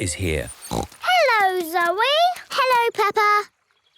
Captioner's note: snorts